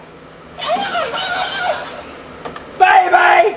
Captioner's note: doll murmuring